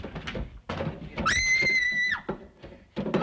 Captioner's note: screaming!